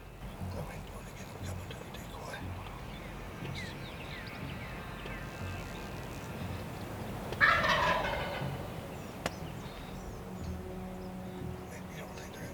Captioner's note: whispering